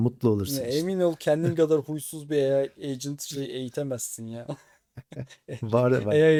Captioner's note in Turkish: kahkaha